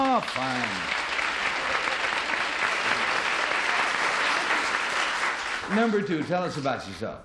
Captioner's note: applause